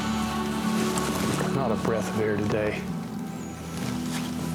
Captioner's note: wind